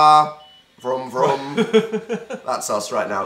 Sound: giggle

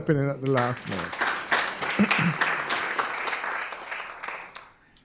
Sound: applause

